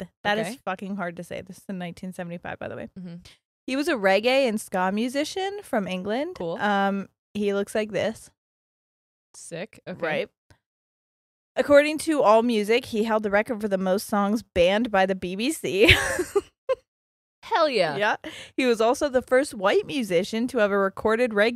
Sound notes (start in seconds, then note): 15.8 laughs